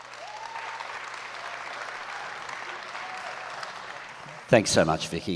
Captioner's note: audience applauds and cheers